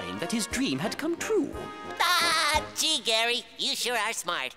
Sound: laughing

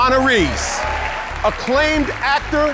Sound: audience applauding

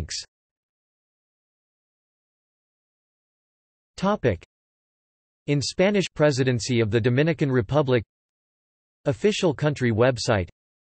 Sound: in Spanish

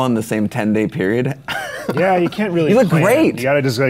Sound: Chase laughs

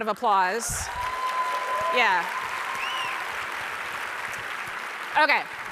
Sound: audience cheering

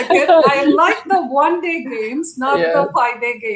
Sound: laughter

